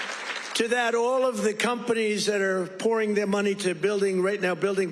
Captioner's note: cheers